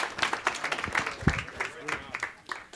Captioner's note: clapping